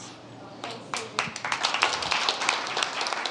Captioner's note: applause